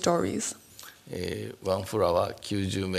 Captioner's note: speaking japanese